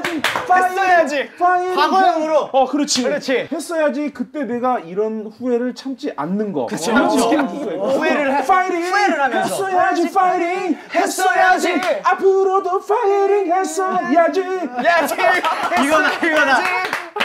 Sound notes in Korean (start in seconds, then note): 6.7 감탄